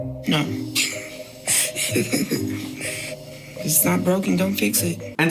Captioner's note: laughing